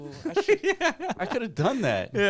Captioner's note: laughing